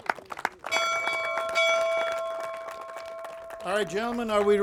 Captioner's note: bell rings